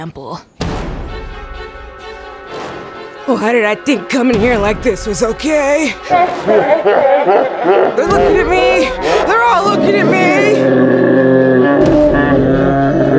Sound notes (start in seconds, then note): 0.2 dramatic music; 6.4 voices distort; 10.3 kids growling